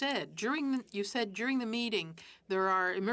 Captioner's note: speaking French